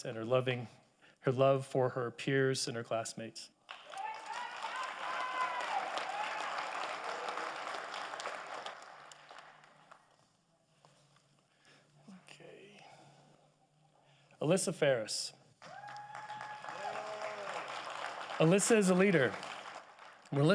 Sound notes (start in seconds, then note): 3.7 audience applauding; 15.6 audience applauding